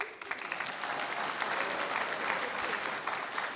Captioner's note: applause